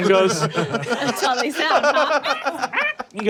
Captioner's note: squawks